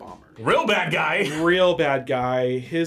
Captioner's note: laughs